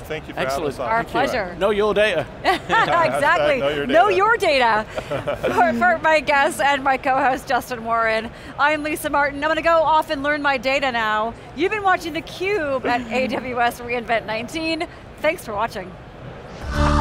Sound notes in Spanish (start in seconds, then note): 2.4 Riéndose; 4.8 risas